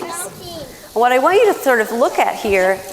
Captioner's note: children chattering